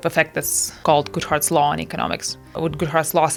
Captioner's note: none